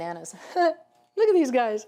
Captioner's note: laughing